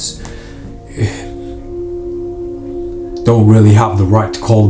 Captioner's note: sighs